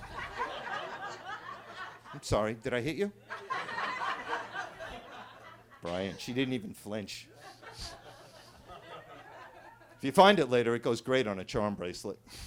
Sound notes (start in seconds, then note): 0.0 attendees laughing